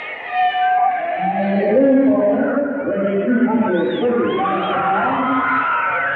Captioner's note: audience shouting